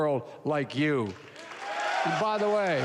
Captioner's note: applause